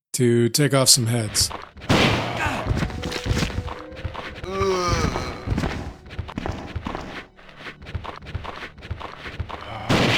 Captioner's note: gunshots